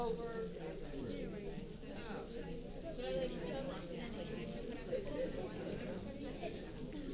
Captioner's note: paper crinkling and audience chattering